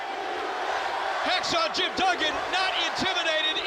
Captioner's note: crowd cheering